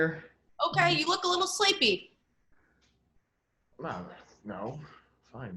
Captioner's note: खांसी